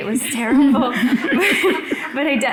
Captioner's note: audience laughing